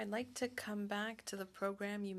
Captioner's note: speaking French